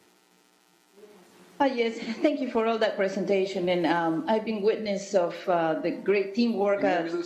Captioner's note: distorted audio